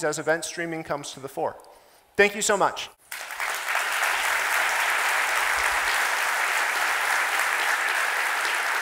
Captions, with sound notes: as event streaming comes to the fore. Thank you so much. (audience applauding)